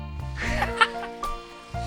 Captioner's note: laughs